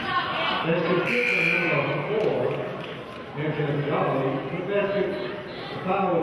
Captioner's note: buzzer honks